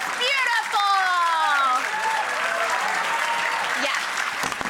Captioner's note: audience cheers